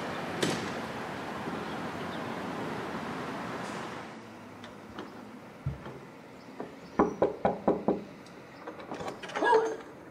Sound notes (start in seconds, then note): 0.4 door closes; 7.0 knocking on door